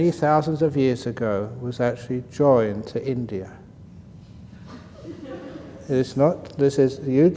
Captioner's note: laughter